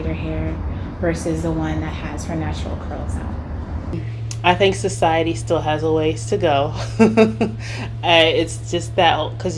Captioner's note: laughs